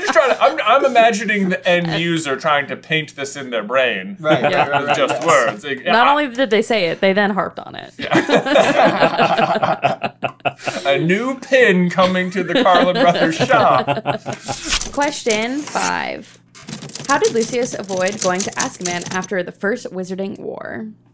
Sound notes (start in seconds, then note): 8.0 laughter